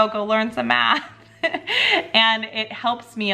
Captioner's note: chuckling